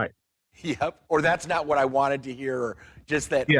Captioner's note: laughs